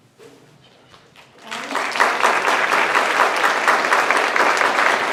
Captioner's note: applause